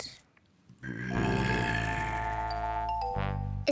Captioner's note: tiger noise